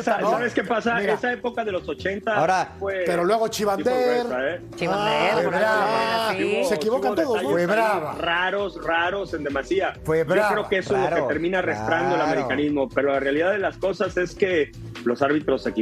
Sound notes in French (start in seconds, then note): 10.0 todos hablando